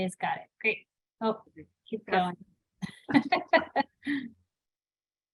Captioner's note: laughs